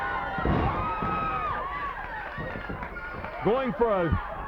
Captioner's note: body thudding